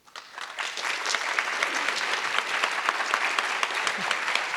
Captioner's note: audience applause